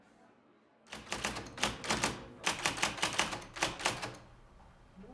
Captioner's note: keyboard clanking